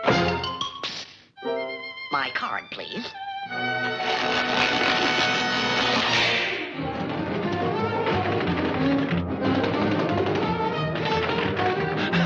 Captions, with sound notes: (door slams) - Psst! My card, please? (paper ripping) (dramatic music) (door shaking)